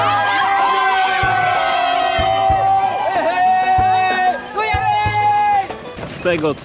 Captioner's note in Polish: Aplauz